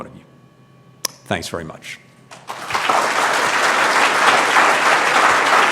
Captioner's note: applause